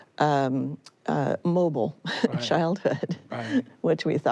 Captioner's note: she laughs